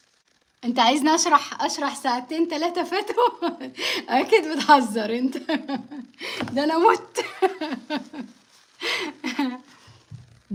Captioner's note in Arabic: ضحك